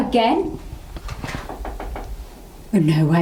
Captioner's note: knocking